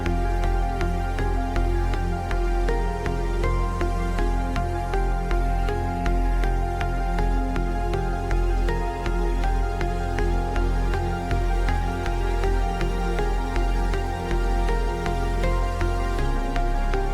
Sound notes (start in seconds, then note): none